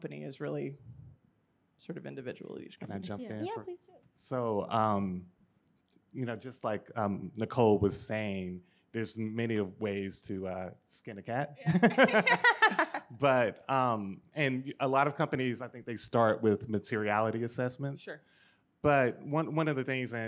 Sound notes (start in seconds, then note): 11.6 laughs